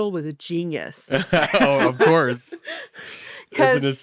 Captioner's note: laughs